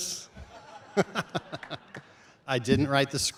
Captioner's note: chuckles